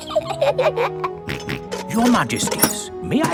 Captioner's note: both giggle; snorts